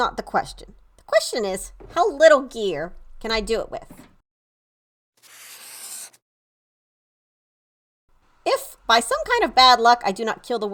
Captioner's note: marker draws